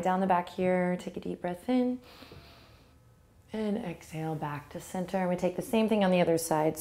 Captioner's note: inhales